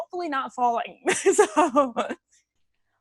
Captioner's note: laughs